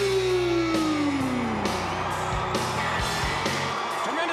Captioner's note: crowd cheering